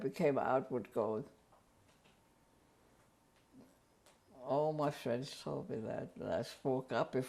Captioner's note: pauses for 3 seconds